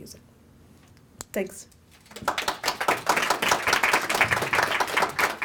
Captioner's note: audience applauds